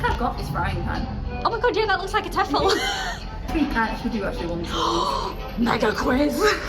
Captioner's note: gasp